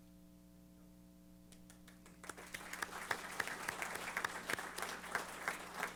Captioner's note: applause